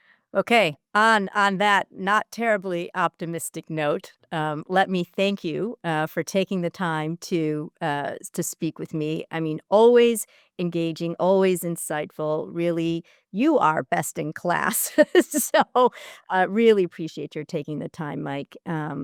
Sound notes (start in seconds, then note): 14.8 laugh